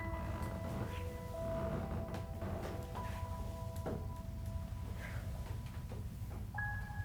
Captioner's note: steps creaking; gentle music continues